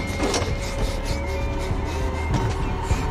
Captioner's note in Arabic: يلهث